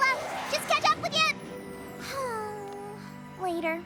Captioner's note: sighs